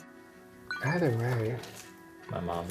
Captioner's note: phone beeps